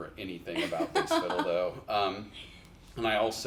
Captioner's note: chuckles